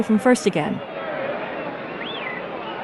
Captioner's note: whistling